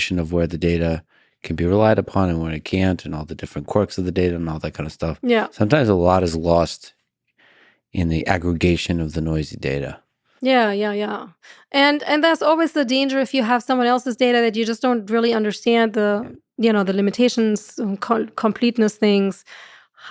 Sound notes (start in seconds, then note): none